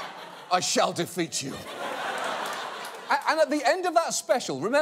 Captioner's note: audience laughs